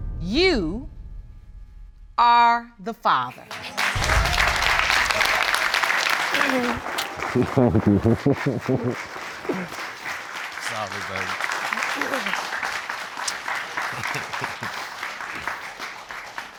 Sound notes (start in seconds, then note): 3.5 applause; 11.7 clears throat; 13.6 chuckles